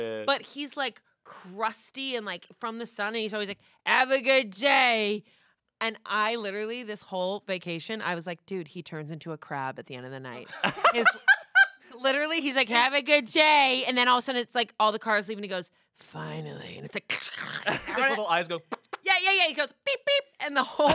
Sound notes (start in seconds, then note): 10.5 laughs; 18.7 lips smack